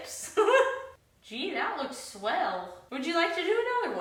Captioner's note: laughs